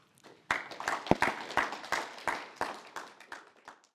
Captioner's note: applause